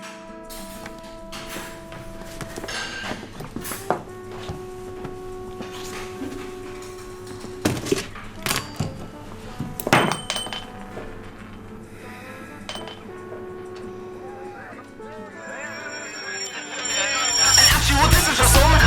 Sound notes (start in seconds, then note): 0.3 sounds of cleaning up the restaurant; 10.0 salt top rolls off table onto floor; 15.4 party noise -guys laughing and shouting